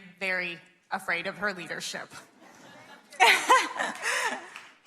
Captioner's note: laughs